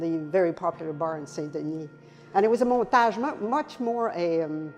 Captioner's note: foreign language; foreign language